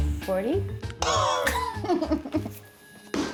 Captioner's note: coughs; laughs